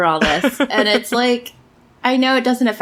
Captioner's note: laughs